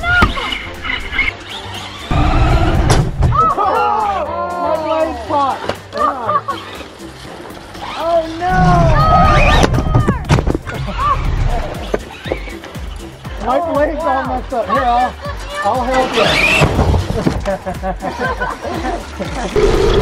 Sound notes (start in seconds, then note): 2.0 car whirs; 3.6 everybody groans; 6.1 laughs; 11.5 upbeat music; 17.2 laughs; 19.7 plow scrapes